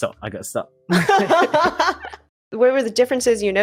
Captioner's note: laughter